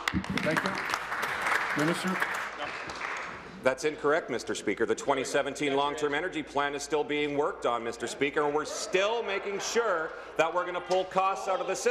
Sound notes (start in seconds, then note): 3.0 applause